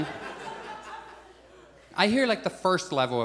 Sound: audience chuckles

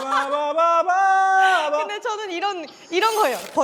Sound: bursts out laughing

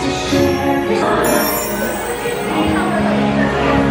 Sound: magical chimes; epic music

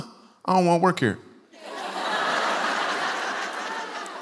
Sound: laughter

